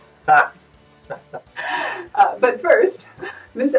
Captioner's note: laughs